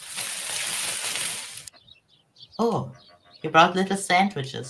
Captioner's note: rustling